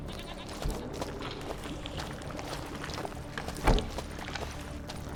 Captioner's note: liquid sloshing